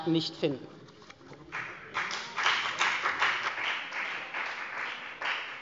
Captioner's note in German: Beifall bei der FDP